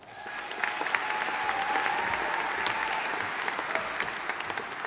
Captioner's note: audience applauding